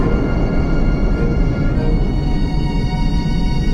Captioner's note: rocket engine whirring